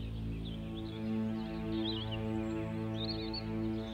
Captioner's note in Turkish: Kuş cıvıltısı sesleri